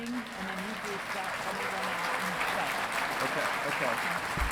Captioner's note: audience applauding